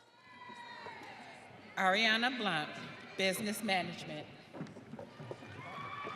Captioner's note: audience cheering